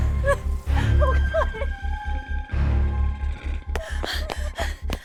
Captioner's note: sobbing; Heather panting; suspenseful music continues